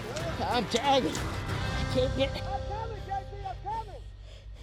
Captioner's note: panting